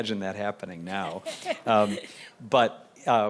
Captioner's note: chuckling